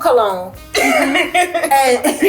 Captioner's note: laughing